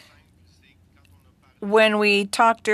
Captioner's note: speaking French